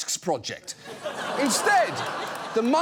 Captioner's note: studio audience laughs